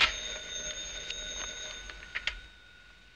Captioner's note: phone ringing